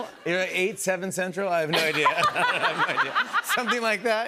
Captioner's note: laughter